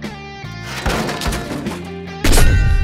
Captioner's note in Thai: โครมคราม; ฉึก